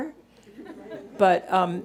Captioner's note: audience laughing